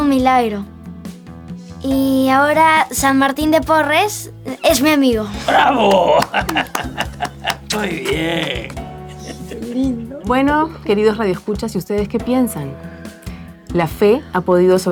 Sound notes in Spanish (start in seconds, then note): 5.4 risas